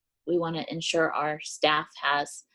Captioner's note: none